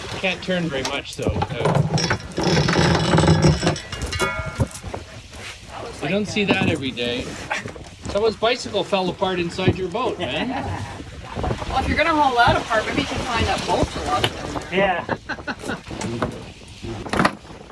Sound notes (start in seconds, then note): 1.8 chain rattling; 10.3 laughing; 14.8 laughing